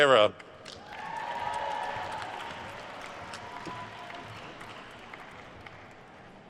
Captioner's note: attendees cheering and applauding